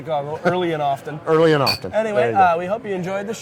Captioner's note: glasses clinking